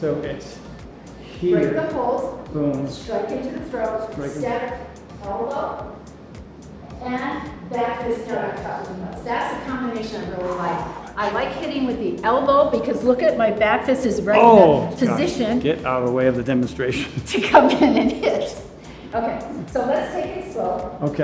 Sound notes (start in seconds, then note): 17.4 chuckles